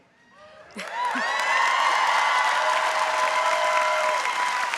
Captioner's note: audience cheering